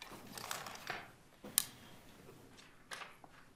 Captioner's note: pages rustling